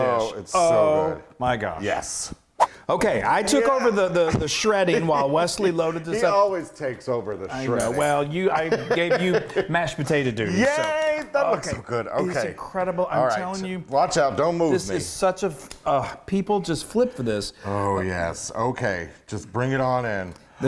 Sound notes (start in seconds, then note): 2.5 air whooshing